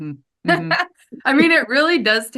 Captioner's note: laughs